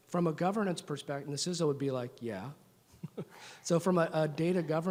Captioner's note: laughs